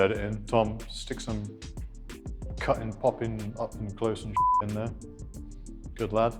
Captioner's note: beep